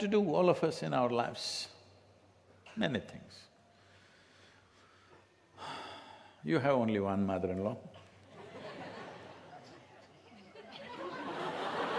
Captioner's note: laughter